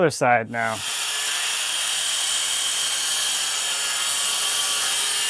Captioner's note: machine whirring